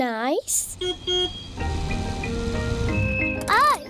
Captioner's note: car horn beeps